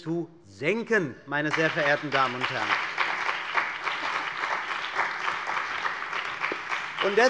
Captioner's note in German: Beifall bei der CDU und dem BÜNDNIS 90/DIE GRÜNEN